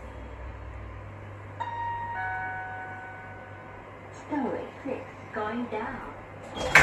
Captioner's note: chime